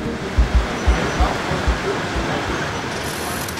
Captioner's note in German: Verkehrslärm, Musik verklingt